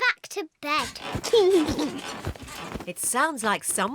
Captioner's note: laughs